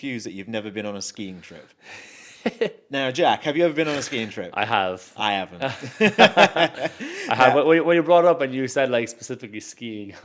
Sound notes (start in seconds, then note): 2.3 laughs; 5.7 both laughs